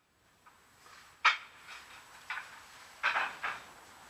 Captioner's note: soft metallic clanging